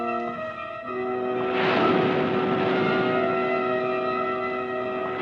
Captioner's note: waves crashing; ominous music continues